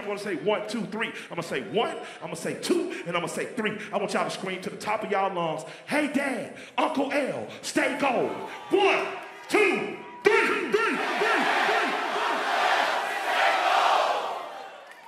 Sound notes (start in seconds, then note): 11.0 crowd